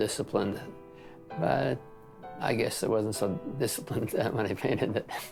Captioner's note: laughs